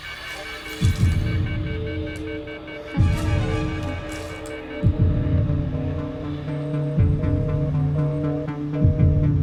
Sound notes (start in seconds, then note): 0.9 phone beeping; 5.0 busy signal beeping